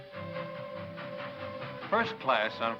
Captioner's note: train horn whistles